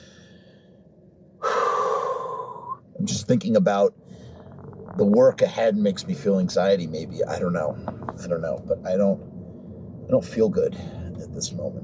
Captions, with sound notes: [Labored breathing] I'm just thinking about the work ahead. Makes me feel anxiety. Maybe. I don't know, I don't know, but I don't- I don't feel good at this moment.